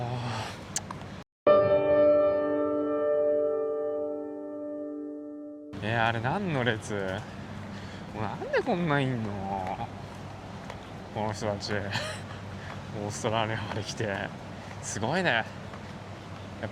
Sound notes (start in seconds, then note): 4.8 tsk tsk